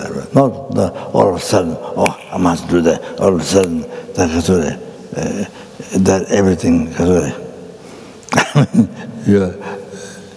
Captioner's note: snaps his fingers